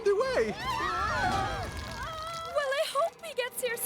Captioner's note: all Screaming